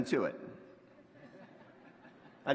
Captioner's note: laughter